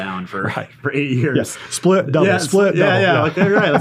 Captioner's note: laughs